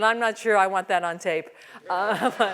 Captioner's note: laugh